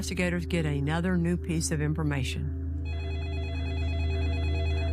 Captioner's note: phone ringing